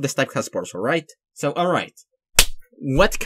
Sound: clap

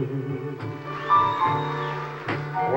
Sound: whistling

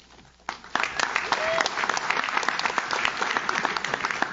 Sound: audience claps

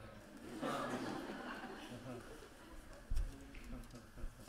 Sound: laughter

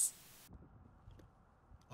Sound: silence

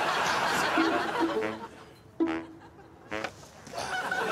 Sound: audience laughing

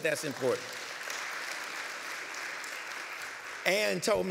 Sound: applause

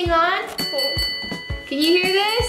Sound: dinging sound

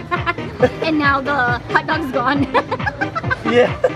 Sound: laughing; laughing

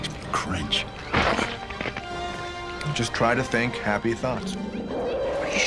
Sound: crunching

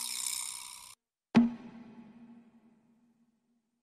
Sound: silence

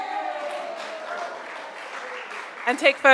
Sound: crowd applauds

